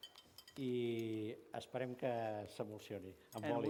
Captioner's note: non-english speech